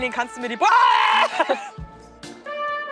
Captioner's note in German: schrei